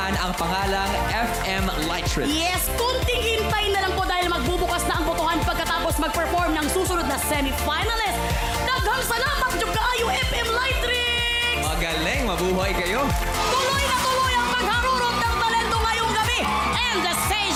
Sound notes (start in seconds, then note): 9.4 in Bisaya